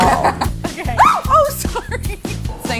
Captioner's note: screams